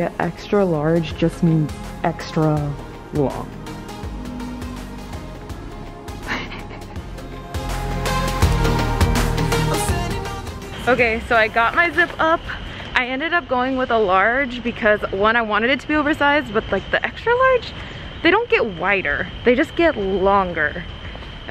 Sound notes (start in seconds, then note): 6.2 giggles; 7.6 bright pop music